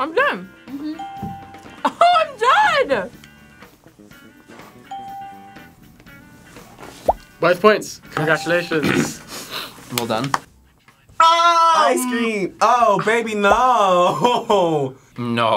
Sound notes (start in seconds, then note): 4.9 bell rings